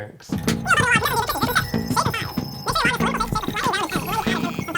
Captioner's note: voice squeaking